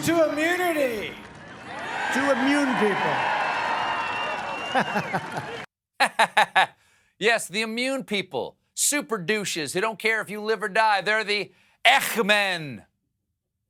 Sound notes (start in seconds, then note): 6.0 laughter; 6.0 laughs